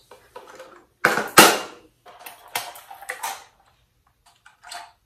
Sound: paints clanging

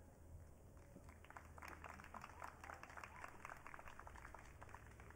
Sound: audience clapping

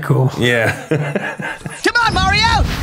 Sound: laughs

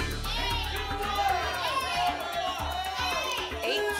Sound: audience shouting numbers

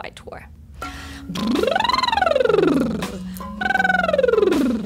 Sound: lip trills

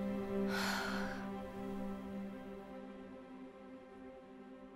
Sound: emma exhales

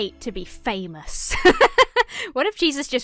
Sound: laughs

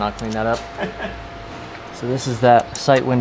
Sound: man laughs

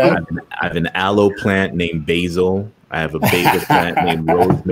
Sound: laughter

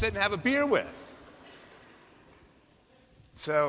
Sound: laughter

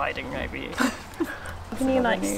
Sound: laughs

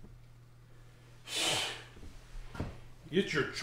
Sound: scoffs

